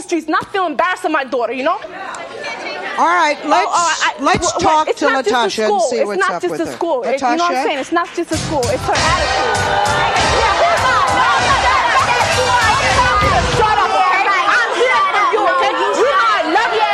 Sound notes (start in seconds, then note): 2.0 overlapping chatter; 8.9 upbeat music; 12.8 overlapping chatter